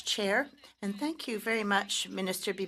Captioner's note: speaking French